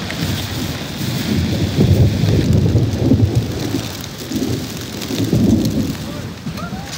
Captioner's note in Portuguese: trovoadas